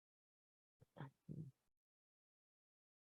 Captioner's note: silence